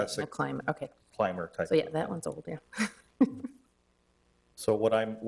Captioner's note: chuckles